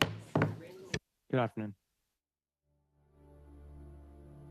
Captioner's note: speaking French